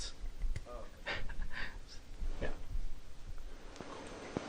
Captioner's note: chuckles